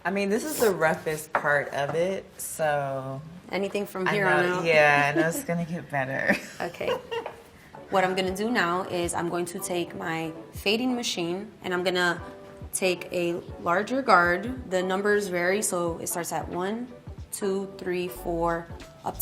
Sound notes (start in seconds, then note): 6.6 laughs